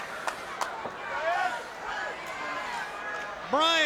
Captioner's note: man clapping; man shouting